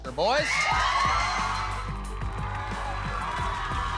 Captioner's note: audience screaming